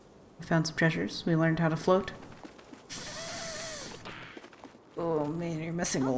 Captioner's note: thinking sound